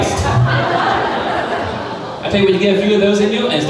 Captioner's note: crowd laughing